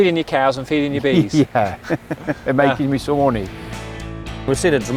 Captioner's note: laughs